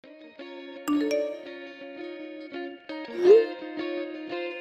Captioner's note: notification